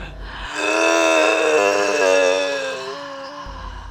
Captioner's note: all groaning